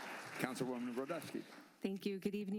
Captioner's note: applause